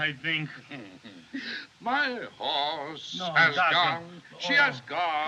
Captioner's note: chuckles; mutters In Spanish